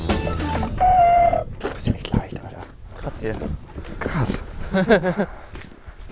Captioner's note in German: Beide lachen